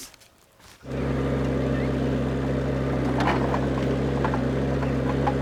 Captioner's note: engine rumbles